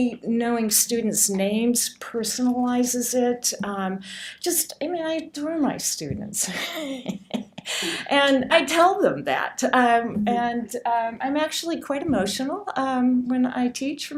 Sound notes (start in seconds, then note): 7.7 laughs